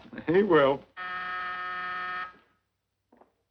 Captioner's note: intercom buzzing